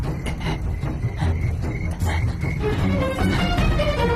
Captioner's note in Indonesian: terengah-engah